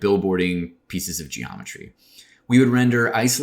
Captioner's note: none